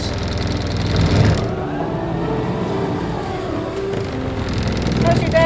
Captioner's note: engine revving